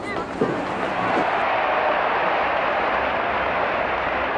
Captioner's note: crowd cheering